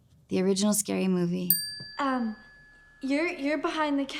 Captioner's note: bell dings